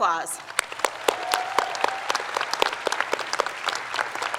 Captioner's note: crowd applauds; claps